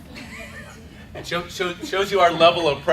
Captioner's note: laughter